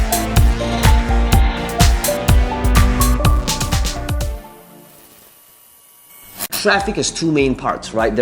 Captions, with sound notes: (sign buzzing) Traffic is two main parts, right.